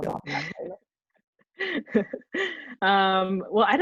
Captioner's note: laughter